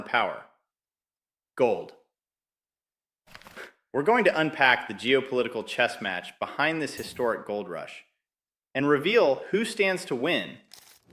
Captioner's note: exhales sharply